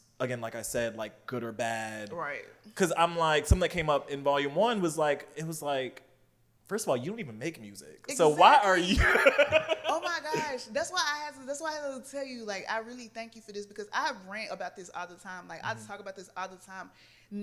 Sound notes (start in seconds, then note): 8.4 laughs